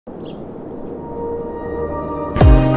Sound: birds chirping; lively upbeat music

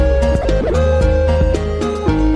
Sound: shronk

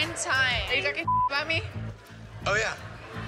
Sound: beep

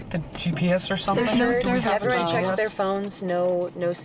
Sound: chattering

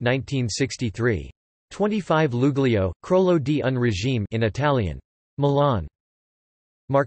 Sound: in Italian

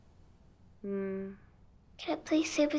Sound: groans

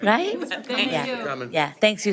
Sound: in Unison

